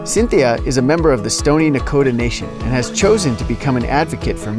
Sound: none

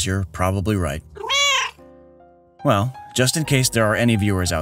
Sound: meow

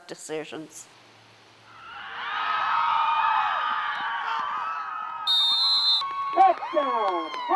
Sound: crowd screaming

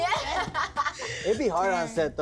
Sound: laughs

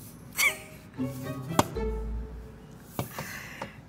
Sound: laughs

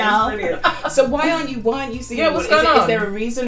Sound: laughs

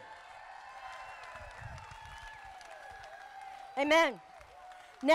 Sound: crowd applauding

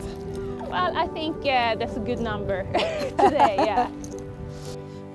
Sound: chuckling

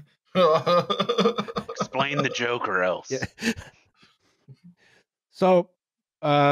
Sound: laughs

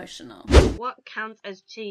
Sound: air whooshing

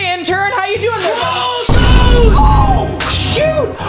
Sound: inaudible yelling

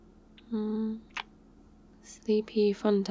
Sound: kiss

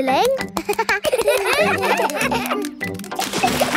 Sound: children laugh

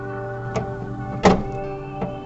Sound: ambient music; metal clanking; ambient music

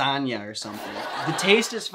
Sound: crowd laughing

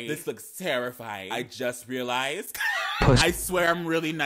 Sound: man laughing

